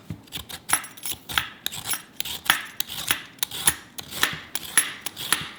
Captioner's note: peeler scrapes